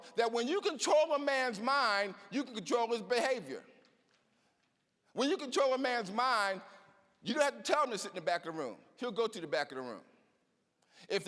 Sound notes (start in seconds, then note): none